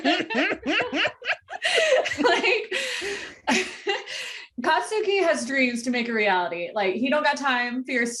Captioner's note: laughter